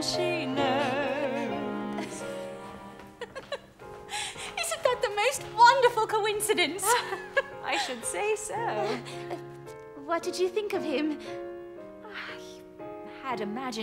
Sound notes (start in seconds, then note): 6.8 laughs